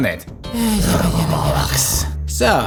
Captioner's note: murmuring